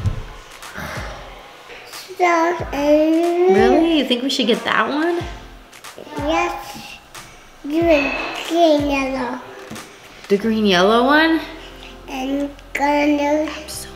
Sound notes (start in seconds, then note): 0.7 sighs; 2.1 babbling; 12.8 babbles